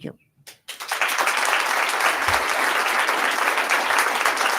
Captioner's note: attendees applauding